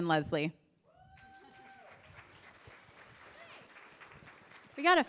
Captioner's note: applause